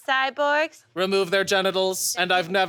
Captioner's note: robotically